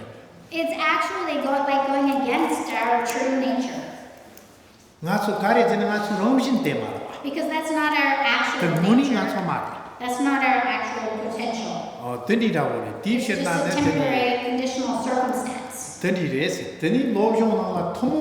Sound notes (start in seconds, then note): 6.5 speaking tibetan; 12.9 speaking tibetan; 17.4 speaking tibetan